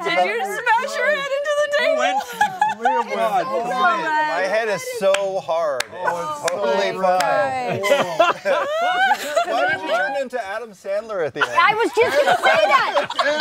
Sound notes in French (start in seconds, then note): 1.7 rire; 7.6 rires